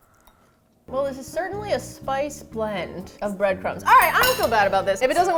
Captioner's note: pensively